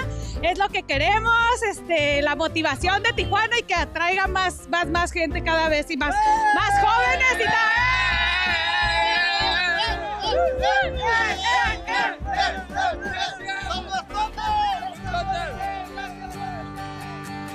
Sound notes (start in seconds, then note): 8.0 celebreation noises